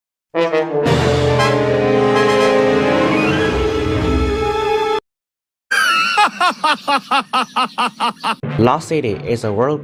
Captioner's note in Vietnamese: Laughter